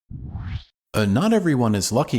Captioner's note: woosh!